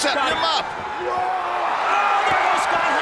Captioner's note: crowd cheering